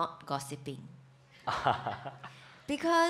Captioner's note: laughs